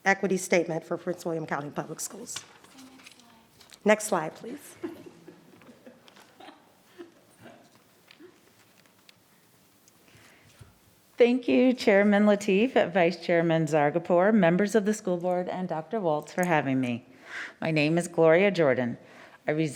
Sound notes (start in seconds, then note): 4.7 laughs